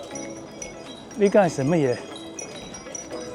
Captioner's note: Cantonese